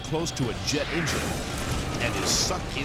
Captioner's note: engine bangs